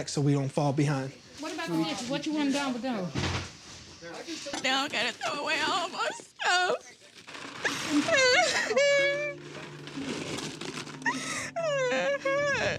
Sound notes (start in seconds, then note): 4.3 dishes crashing; 4.9 crying